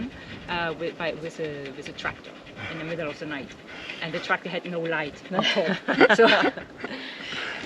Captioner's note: laughing